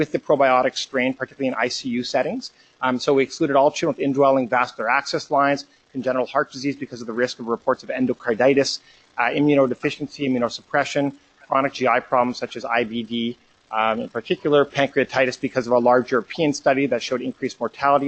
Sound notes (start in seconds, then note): 13.7 recording cuts out